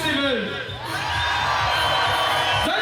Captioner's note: audience cheers